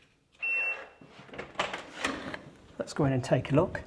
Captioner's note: door beeps